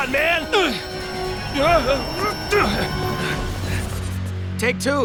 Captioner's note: wincing